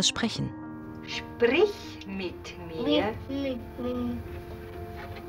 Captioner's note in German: Kind murmelt